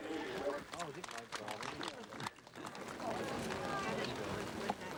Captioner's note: spectators applaud